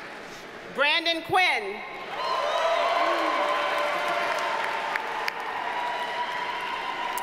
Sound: audience cheers and applauds

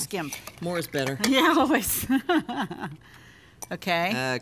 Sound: laughs

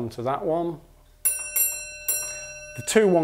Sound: the bell rings 2-1

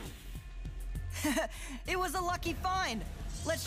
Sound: chuckling

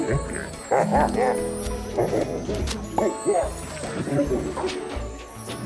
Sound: grunting

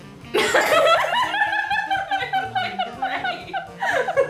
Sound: laughter

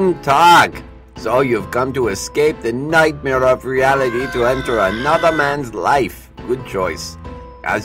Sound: man runs past screaming

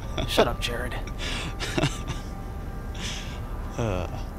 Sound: Jerod chuckling

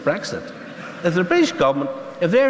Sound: laughter

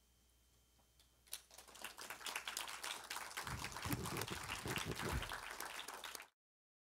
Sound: audience clapping

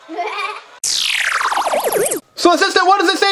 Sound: child laughs; laser whirring

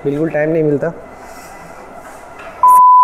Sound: gasps

